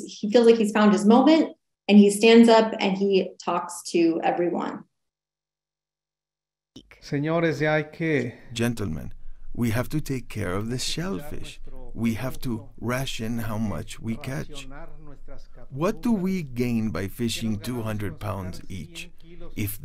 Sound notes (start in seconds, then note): 6.9 speaking Spanish